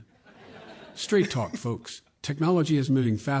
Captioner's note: laughter